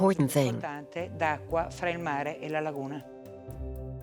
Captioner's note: Italian spoken audio